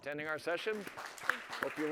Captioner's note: applause